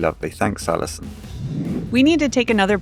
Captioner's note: air whooshing